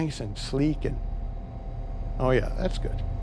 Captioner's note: quiet spaceship sound